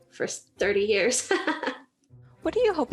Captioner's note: laughs